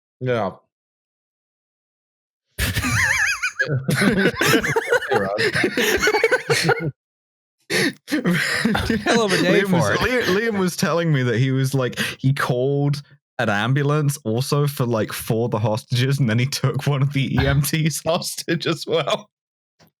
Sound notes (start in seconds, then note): 2.6 laughter; 7.7 laughs; 17.4 laughing